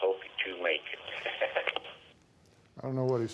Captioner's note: chuckles